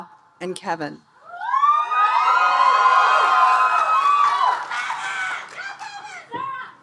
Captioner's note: audience cheering and applauding